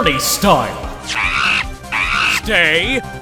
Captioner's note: Money chatters!